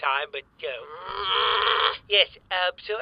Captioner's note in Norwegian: Irritert knurring